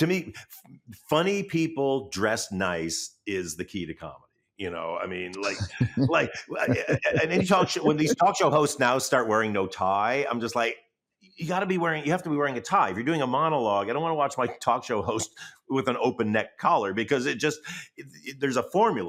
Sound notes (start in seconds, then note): 5.3 chuckles